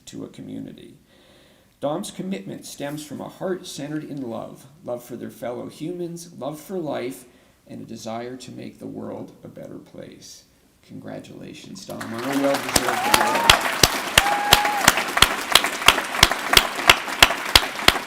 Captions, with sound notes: to a community. Dom's commitment stems from a heart centered in love, love for their fellow humans, love for life and a desire to make the world a better place. Congratulations, Dom. (applause)